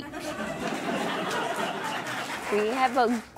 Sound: laughter

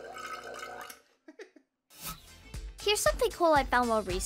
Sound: giggles

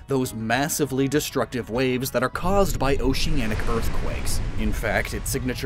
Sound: earthquake SFX, ocean wave SFX

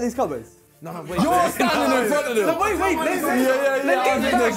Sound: men chattering

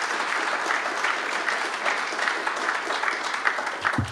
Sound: applause

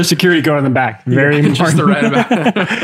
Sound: laughs

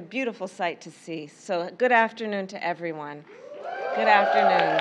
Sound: applause

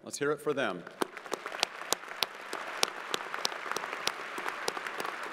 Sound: crowd applauding

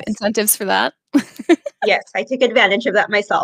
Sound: laughing

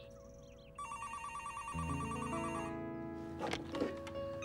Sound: phone rings

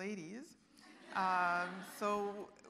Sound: audience laughing

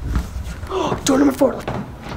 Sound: gasp

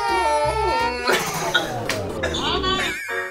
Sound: bursts out laughing

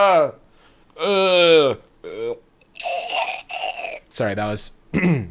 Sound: host choking

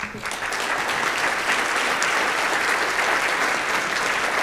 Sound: audience applauds

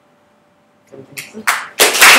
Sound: applause

